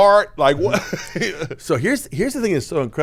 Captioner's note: laughs